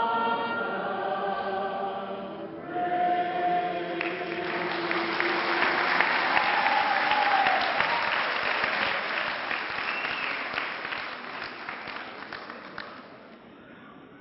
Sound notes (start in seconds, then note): 4.5 clapping